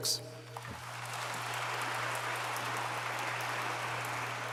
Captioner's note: audience applauds